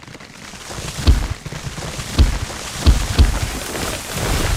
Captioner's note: thudding